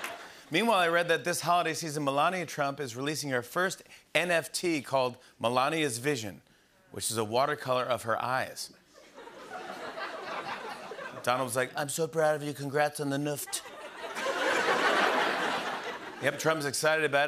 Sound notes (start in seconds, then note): 0.0 laughter; 9.0 laughter; 13.4 laughter